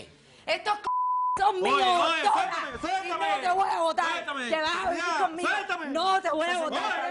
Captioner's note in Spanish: Bip